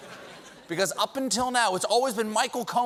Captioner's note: laughter